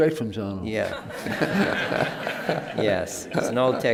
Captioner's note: laughter